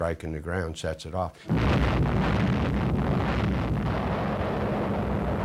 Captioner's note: explosion